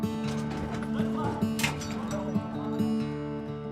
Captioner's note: none